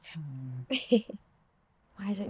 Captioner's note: Tilly chuckling